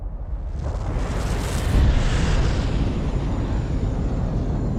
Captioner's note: exploding